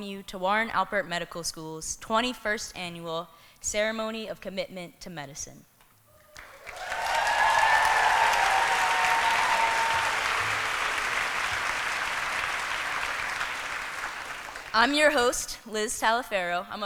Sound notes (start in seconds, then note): 6.3 applause